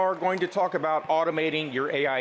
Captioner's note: applause